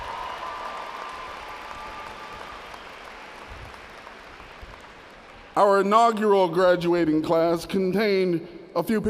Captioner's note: audience cheers